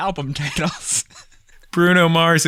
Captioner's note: laughter